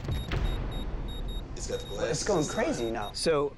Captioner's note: beeping increasing